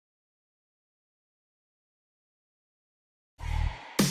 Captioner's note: silence